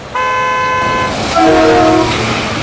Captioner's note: horn blaring; trucks roaring